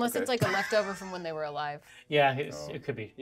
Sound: speaker chuckles

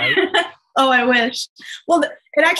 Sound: laughs

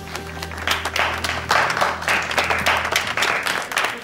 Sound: crowd applauding

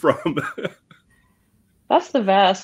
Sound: person laughing

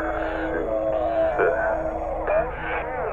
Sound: distorted speech

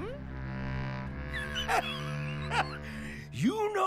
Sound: wheezes as he laughs

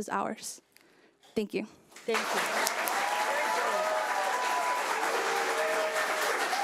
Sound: audience applauding

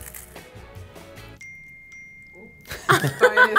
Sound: phone dinging; laughing

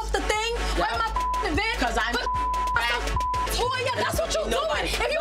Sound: beep

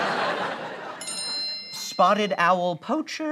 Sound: bell noise

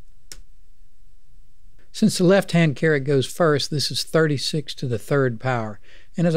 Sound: clicking

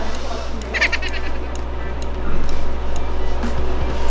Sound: laughing after delivering his lines well

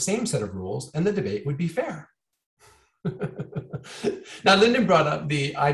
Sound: chuckling

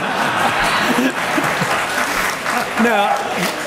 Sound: laughter; applause

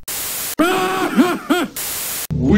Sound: raucous laughter

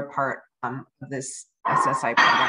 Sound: plates dropping sound

